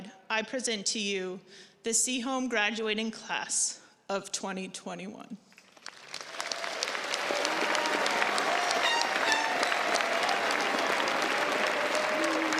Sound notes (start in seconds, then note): 5.6 crowd applauds